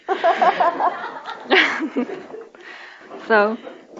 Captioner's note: laughter continues